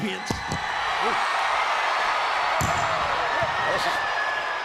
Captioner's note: crowd cheers